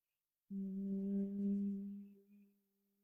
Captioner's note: humming sound